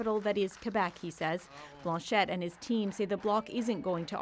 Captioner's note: speaking French